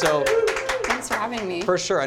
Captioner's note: applause